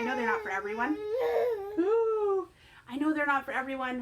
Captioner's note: baby whines; mimics whine